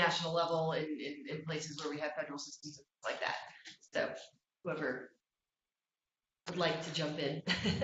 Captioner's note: laughter